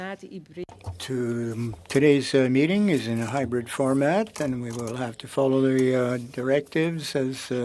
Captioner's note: speaking French